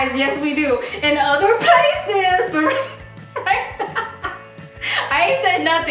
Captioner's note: laughing